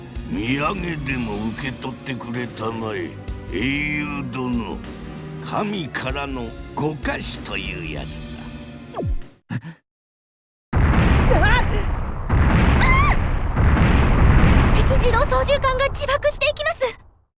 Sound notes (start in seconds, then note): 9.5 gasp; 11.3 shocked cry